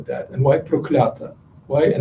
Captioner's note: non-english speech